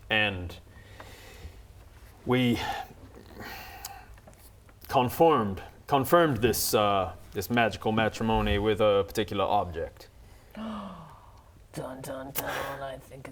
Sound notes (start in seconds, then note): 10.4 gasp